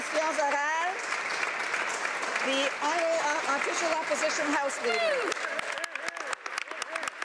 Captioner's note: applause